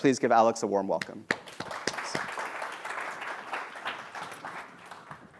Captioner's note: applause